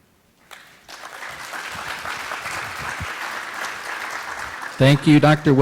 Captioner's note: applause